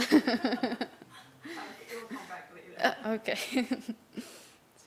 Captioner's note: laugh